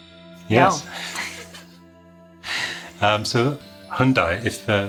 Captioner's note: both chuckling